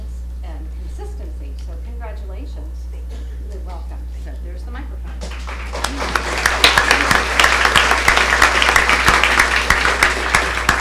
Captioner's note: applause